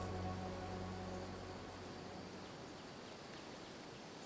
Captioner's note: birds chirping